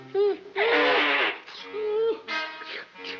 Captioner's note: blowing his nose